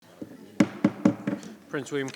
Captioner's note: gavel thudding